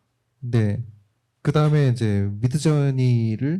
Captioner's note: speaking korean